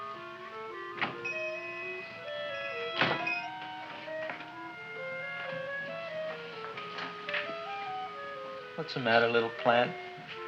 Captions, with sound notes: (shop bell chimes) (mysterious music) What's the matter little plant?